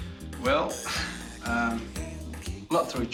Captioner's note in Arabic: كلاهما يضحك